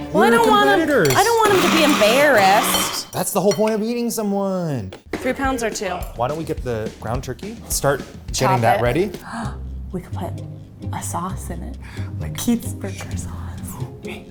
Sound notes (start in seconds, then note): 9.7 gasp; 12.4 whispers